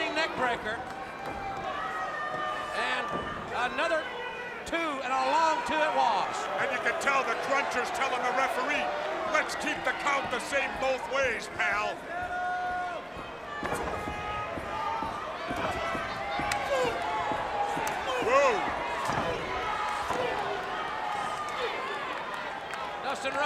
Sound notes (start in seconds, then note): 13.0 crowd chatter